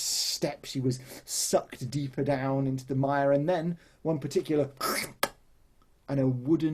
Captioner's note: squelch noise